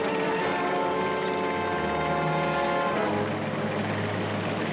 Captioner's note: vehicle rumbles